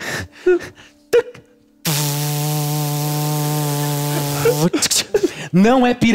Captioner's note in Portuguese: motor